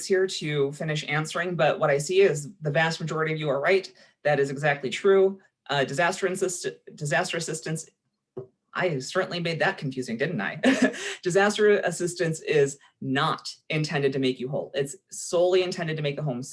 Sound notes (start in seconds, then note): 10.6 chuckling